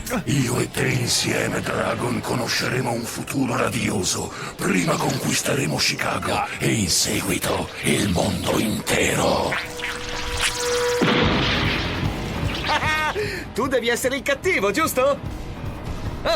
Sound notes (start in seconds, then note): 11.0 wood crashing